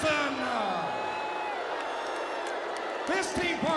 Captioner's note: crowd cheering